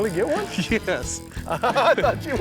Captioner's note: laughing